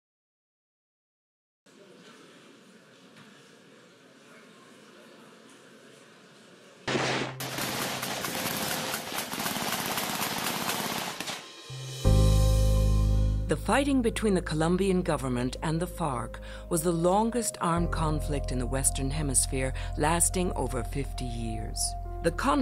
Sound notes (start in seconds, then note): 6.8 rapid gunshots; 12.4 dramatic piano music